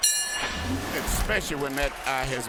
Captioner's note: bell rings